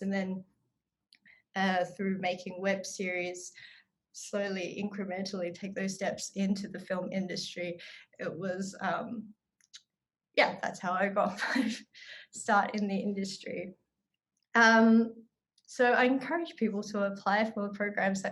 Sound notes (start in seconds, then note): 11.3 chuckles